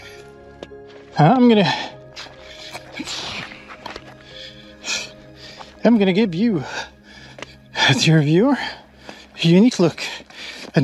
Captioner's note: grunt